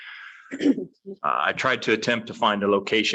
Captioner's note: clearing throat